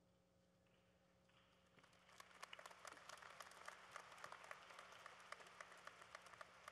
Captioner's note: applause